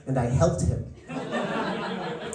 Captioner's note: laughter